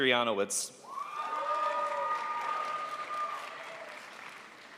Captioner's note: crowd applauds